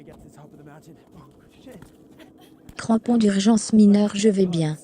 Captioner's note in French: en riant